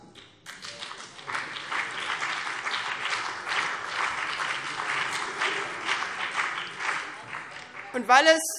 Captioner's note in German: Beifall